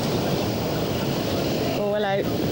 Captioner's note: waves crashing